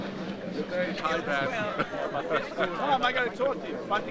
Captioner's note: laughs